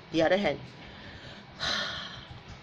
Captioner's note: sighs